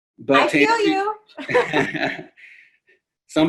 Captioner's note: laughing